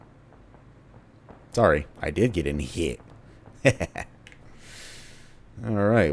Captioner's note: devious chuckle